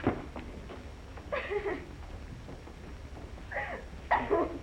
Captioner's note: Mary Lou crying